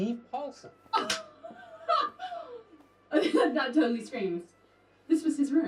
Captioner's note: laughs